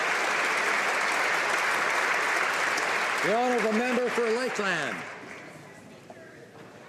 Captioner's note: applause